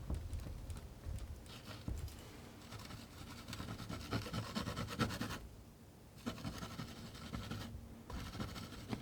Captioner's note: scratching